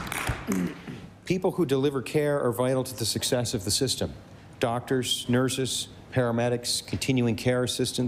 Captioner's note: applause